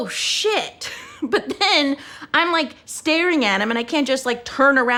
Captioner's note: laughs